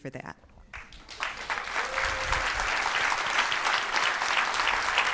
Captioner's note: audience applauding